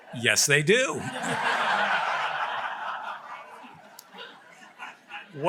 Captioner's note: laughter